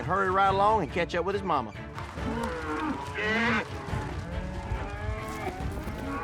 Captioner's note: cattle moo